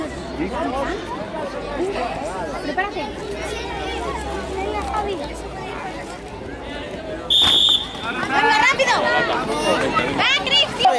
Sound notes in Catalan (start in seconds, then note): 5.8 Xiulet